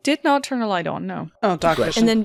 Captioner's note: Mira sighs